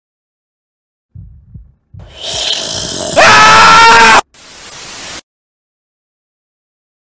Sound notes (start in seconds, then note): 0.0 sound of fright and scream